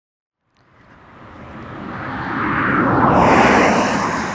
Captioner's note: car engine roaring